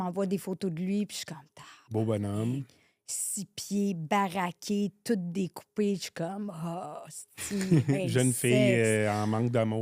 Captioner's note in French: rires